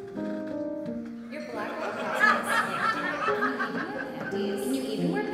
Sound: echo-ing voiceover

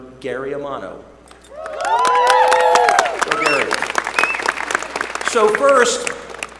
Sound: applause

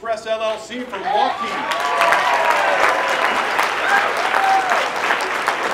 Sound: applause

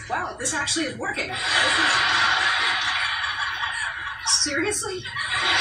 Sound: laughter

